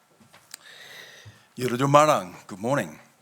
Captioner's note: speaking in foreign language